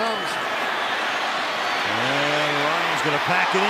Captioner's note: cheering